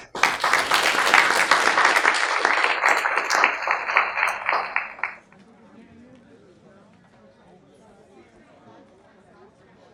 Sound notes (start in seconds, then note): 0.0 audience applauding; 6.2 audience chatting